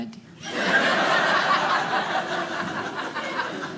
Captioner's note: audience laughing